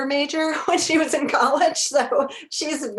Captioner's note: chuckles